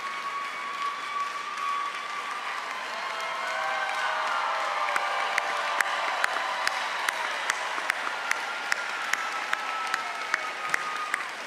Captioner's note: cheers and applause